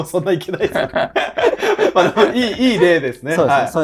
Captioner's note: laughing